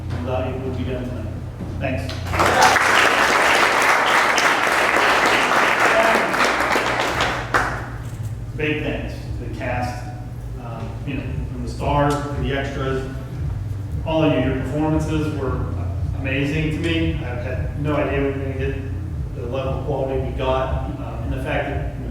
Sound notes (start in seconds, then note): 2.1 applause